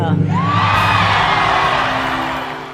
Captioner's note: audience cheering